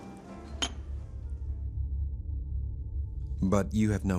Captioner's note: clinking